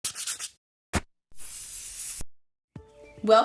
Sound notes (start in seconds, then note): 0.2 wood sanding; 1.3 spray can spraying